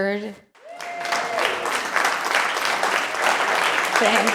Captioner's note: applause